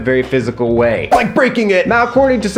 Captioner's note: arm whooshing